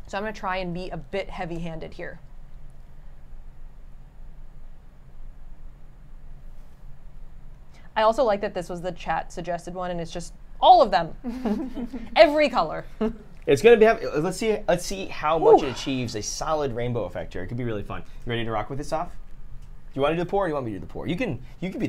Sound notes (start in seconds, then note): 5.1 fan whirs